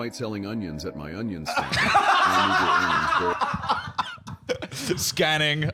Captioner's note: both laughing